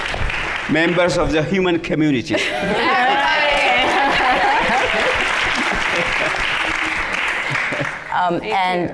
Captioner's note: laughter